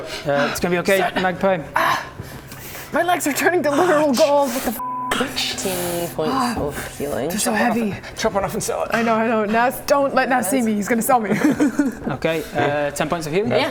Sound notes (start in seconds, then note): 11.4 gluttonous chuckle